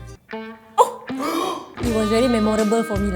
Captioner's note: gasp